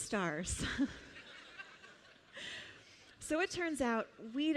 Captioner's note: laughter